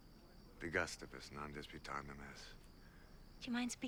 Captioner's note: speaking foreign language